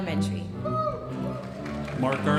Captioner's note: audience applauding